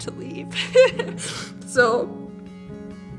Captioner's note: laughs while crying